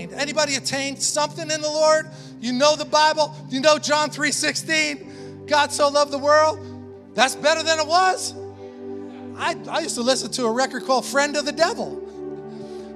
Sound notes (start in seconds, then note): 7.1 congregation affirming